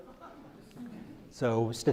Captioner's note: crowd laughs